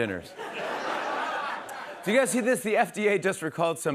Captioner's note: laughter